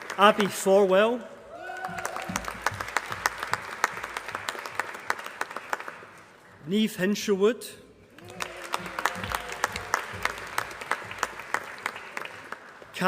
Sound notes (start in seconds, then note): 1.5 applause; 8.1 applause